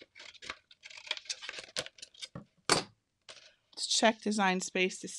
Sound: scissors cutting; paper rustling

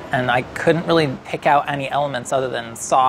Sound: none

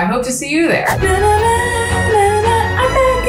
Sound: Kelsey humming

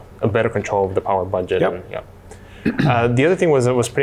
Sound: clears throat

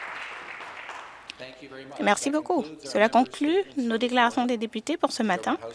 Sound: some Applause

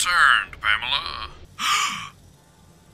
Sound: dramatically gasps

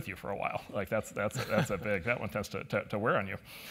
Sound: laugh

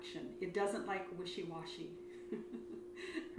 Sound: laughs

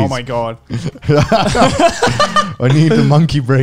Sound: men laughing

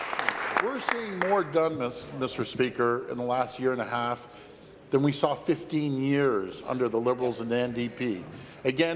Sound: applause

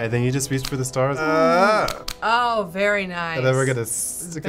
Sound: groans

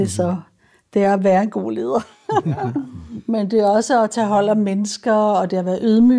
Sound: laughs

